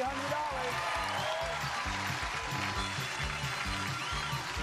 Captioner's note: crowd cheers